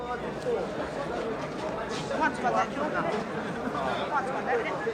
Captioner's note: audience chattering